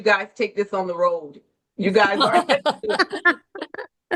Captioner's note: laughter